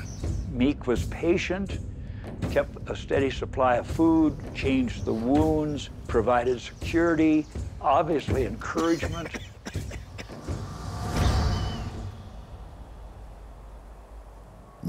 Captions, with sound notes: MEEK WAS PATIENT AND KEPT A STEADY SUPPLY OF FOOD, CHANGED THE WOUNDS, PROVIDED SECURITY, OBVIOUSLY ENCOURAGEMENT. [COUGHING] [WIND HOWLING]